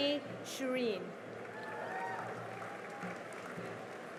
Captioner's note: cheering and applause